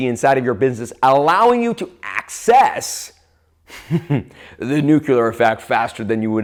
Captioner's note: laughs